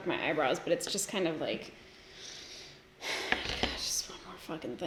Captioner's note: sighs